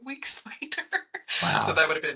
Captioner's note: chuckling